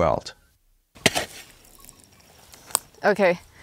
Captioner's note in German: Werkzeuggeräusche